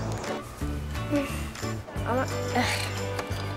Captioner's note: sighs